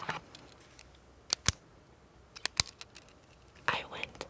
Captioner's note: pin clicking